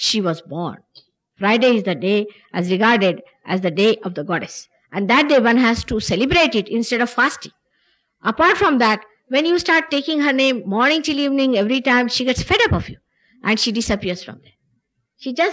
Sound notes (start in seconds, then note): none